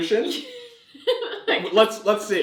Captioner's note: laughs